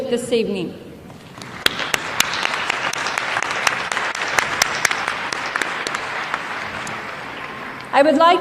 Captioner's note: applause